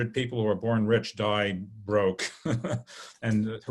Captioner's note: laughs